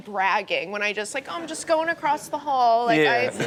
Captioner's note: crowd laughs